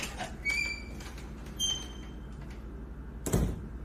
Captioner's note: door opens; door closes